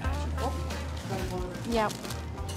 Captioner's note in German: Entfernte Gespräche